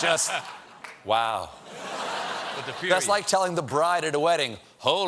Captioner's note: laughter